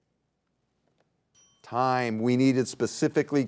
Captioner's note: bell dinging